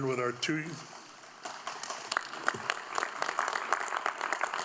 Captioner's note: audience applauding